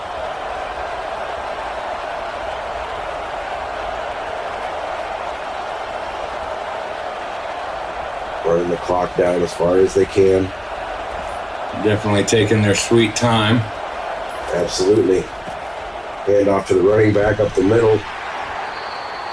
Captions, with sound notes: (crowd cheering) - We're in the clock down as far as they can. - Definitely taking their sweet time. - Absolutely. Head off to the running back up the middle.